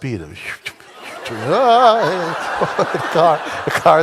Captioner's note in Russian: смех в зале